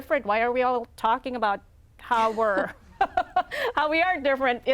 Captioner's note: laughs